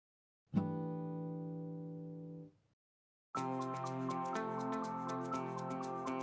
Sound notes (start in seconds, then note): 0.6 chime sounds; 3.4 upbeat music